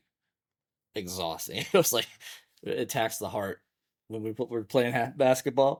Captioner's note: laughs